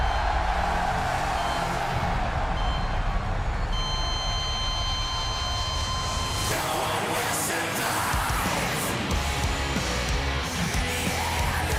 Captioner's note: crowd cheering